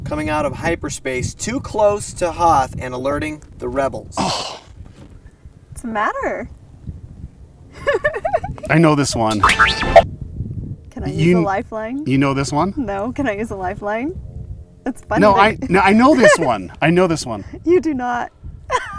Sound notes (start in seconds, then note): 7.8 laughs